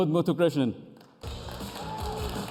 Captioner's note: cheers and applause